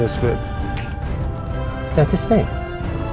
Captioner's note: fingers snap